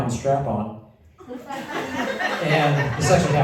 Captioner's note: laughter